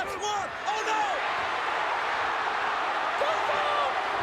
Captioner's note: crowd cheering